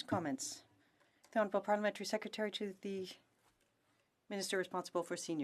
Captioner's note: speaking French